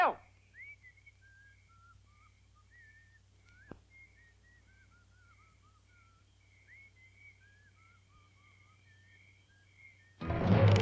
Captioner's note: Orville whistles; suspenseful music